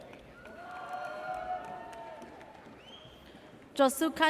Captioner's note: audience cheers